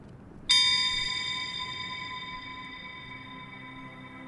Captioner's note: chime rings; gentle music